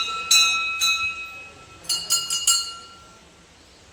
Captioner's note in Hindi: घंटी की आवाज़